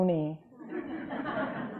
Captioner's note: audience laughing